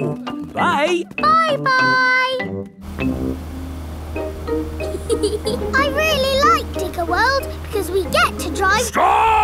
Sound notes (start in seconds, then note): 4.8 george chuckling